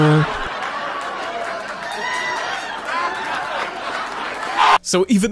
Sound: crowd cheering

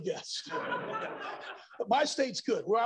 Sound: laughter

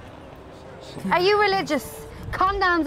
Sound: John muttering prayers

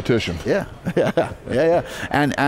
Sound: chuckles

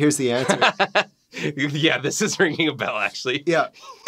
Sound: laughing

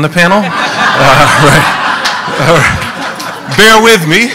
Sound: laughing

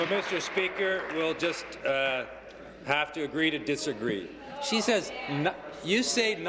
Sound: applause

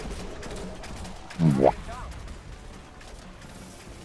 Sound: boo-Womp Sound effect

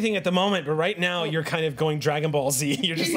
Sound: laughs

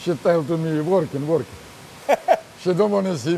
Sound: laughter

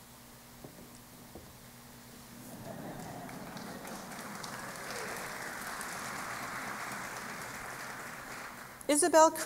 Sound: applause

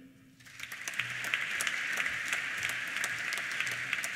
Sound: applause

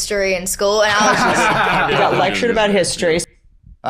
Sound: both laugh

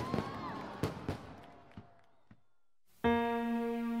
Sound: cheering; gentle piano music

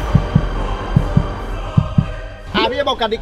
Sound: tense music continues; heart beats continue

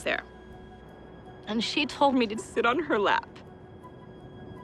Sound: voice breaking

